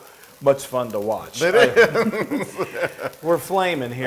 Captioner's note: laugh